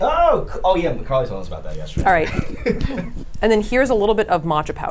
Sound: laughs

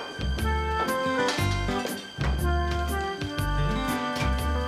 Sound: pots clatter

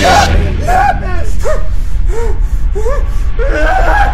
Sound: gasp; breathing

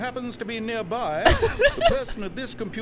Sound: laughs

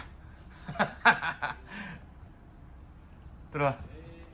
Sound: laughs

